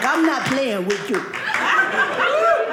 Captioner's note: audience laughing